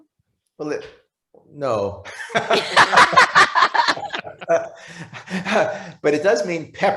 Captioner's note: presenters laughing